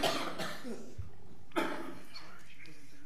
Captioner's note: coughing